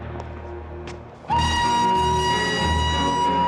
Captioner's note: Meniup peluit